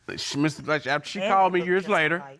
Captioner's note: stuttering